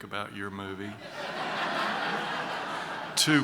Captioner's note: laughter